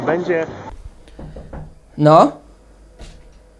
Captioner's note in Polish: pukanie